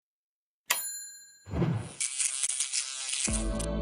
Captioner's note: logo chiming